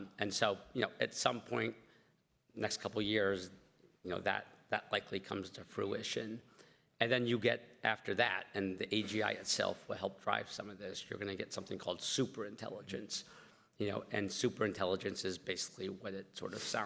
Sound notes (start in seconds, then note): none